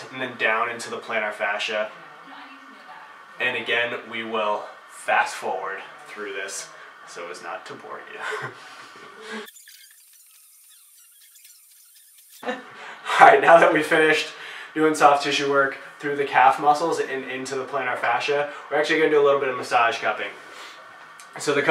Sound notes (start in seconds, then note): 9.4 tape fast forward scratching